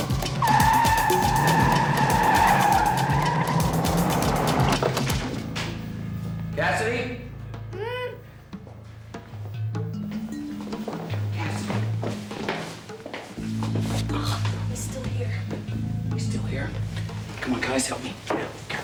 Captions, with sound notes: (tires screech) Cassidy? (muffled grunt) Cassidy. He's still here. He's still here? Come on, guys, help me.